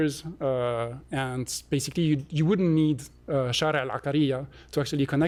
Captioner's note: non-english